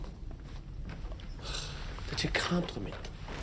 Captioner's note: sighs